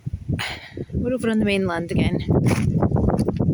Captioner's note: seaweed squelches underfoot